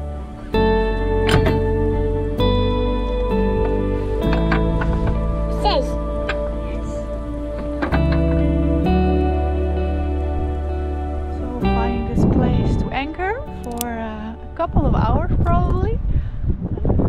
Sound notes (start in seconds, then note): 4.3 lever rattling; 6.1 upbeat music